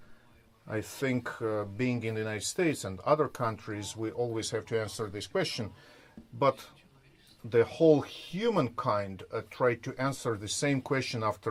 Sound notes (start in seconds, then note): none